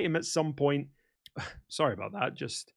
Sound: ahem

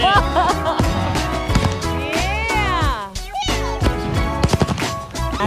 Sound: laughing

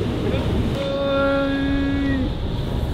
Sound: fake grunting

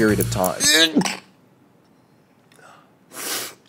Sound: grunts

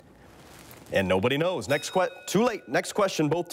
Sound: bell rings

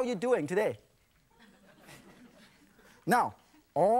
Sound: audience laughs

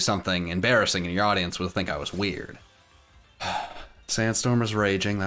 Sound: sighs

